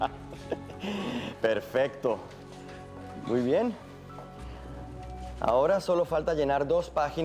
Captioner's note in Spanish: Ríe